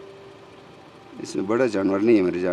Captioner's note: non-english speech